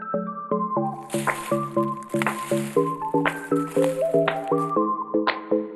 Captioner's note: footsteps and leaves rustling